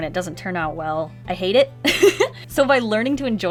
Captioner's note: laughs